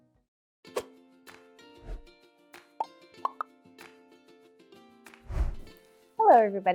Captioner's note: gentle music; whooshing